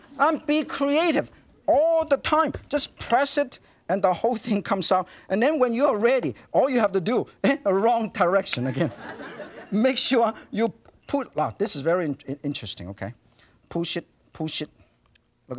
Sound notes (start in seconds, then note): 8.8 laughs